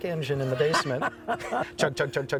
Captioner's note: laughs